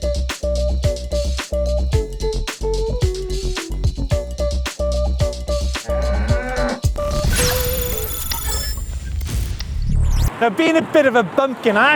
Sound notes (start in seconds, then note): 5.8 cow mooing; 6.9 digital beeping